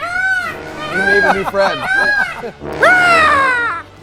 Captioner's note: peacock cawing; laughing; cawing